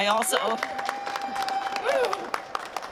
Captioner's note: cheering